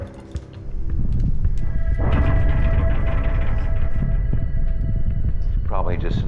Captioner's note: rumble